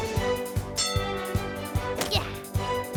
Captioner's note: bell dings